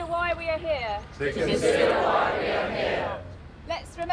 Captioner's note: crowd